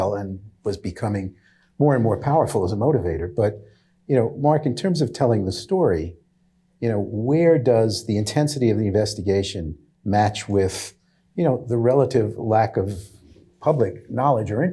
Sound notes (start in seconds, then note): none